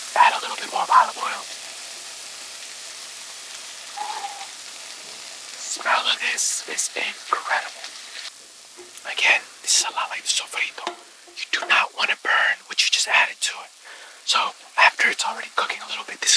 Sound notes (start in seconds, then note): 4.1 exhales sharply